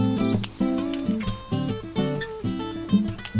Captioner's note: snip, snip, snip